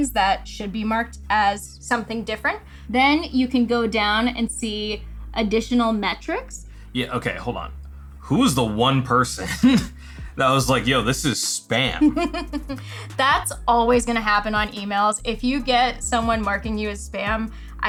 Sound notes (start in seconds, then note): 11.8 laughs